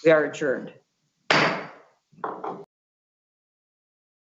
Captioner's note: gavel bangs